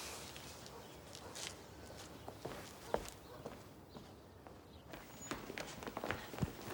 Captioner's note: dog barks distantly; birds chipping